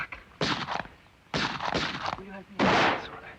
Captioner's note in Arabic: طلقات نارية